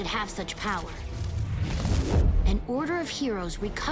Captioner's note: energy whooshes